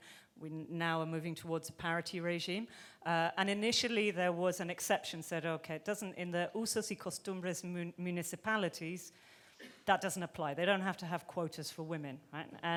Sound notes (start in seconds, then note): 6.4 speaking in foreign language